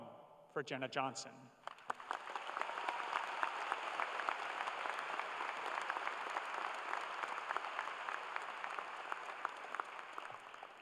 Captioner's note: cheers and applause